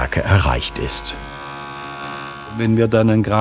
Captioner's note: machine humming